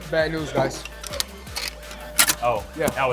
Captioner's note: pieces clattering